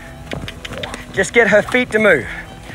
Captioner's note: mouth clicking